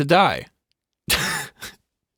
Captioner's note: laughs